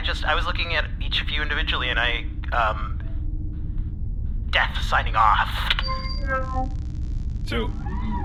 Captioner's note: end transmission sound